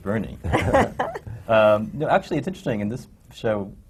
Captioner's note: laughter